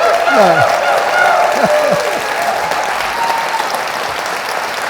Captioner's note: audience cheering